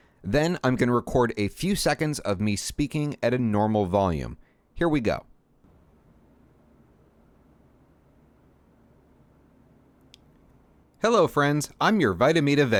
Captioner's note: silence